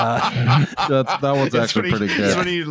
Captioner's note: laughs